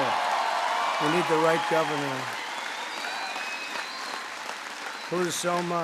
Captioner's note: applause